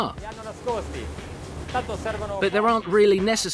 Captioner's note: speaking in foreign language